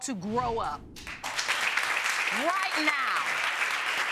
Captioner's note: audience applauding